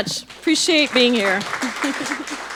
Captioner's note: audience applauding